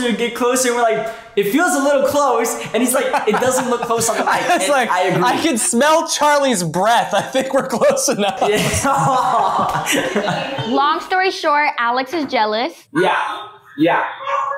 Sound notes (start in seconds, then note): 5.3 chuckling